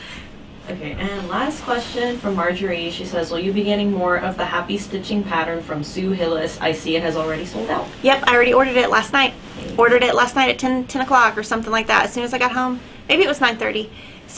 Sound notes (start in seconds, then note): none